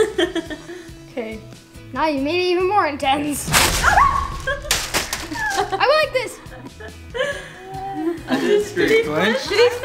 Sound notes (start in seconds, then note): 0.1 laughing; 3.8 screaming